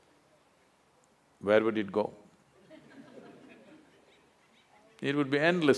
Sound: laughter

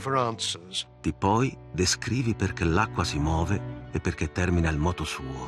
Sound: speaking Italian

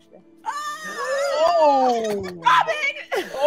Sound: all shouting

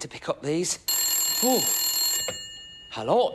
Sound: telephone rings

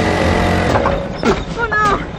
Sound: engine sputters

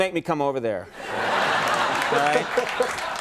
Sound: audience laughing

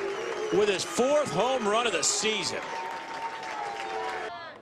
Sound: cheers

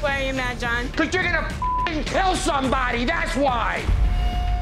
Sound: beeping

